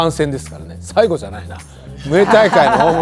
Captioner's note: laughs